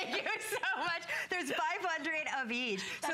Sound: laughter

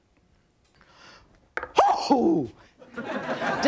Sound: Chef sneezes; audience laughing

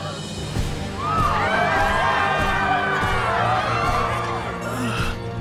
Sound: screaming

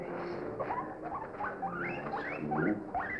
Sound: guinea pig squeaking

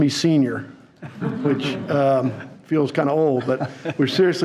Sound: audience laughing

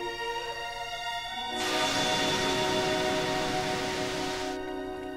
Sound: heat vision boiling

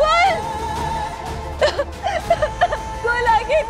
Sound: sobbing

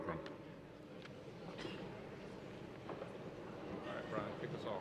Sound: audience chatters

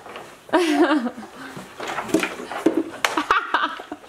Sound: laughs loudly

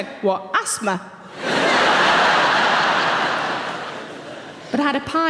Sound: audience laughing

